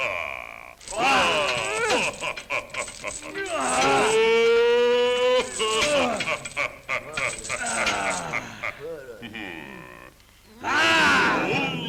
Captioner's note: sinbad laughs